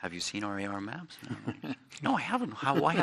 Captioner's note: laughs